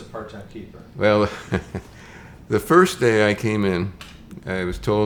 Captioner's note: chuckles